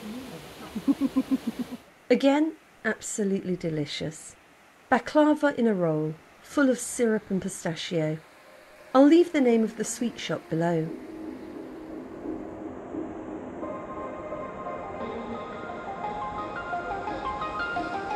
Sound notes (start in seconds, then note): 11.4 sound of a waterfall